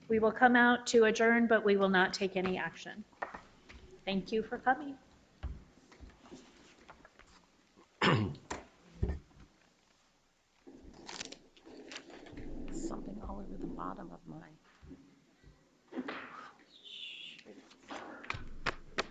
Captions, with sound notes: We will come out to adjourn, but we won't take any action. Thank you for coming. (clearing throat) (papers shuffling) - There's something wrong with the bottom of mine. Oh, shoot!